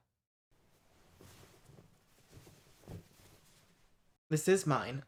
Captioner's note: fabric rustling